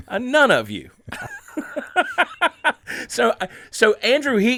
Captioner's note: laughing